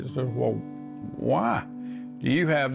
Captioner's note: none